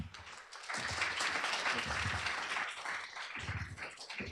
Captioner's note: applause